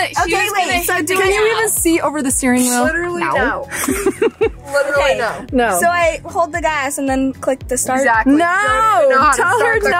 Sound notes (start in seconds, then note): 3.7 group laughs